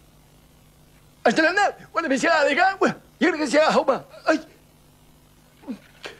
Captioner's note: talks backward